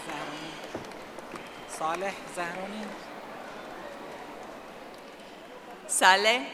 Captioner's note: audience applauding